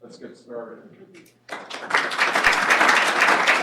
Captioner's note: applause